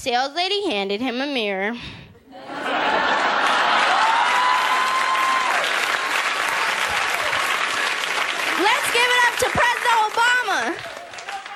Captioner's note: audience Laughter and Applause!